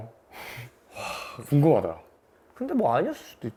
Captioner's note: phew